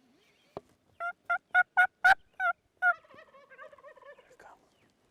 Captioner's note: turkey calling